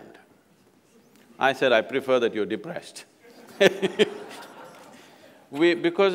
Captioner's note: laughter